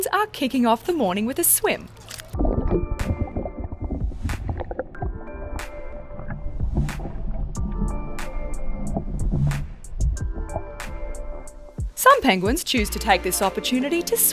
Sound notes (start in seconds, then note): 1.7 water gurgles; 2.4 peaceful music